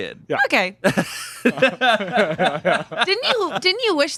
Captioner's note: laughing